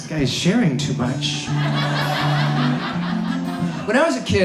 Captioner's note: audience laughs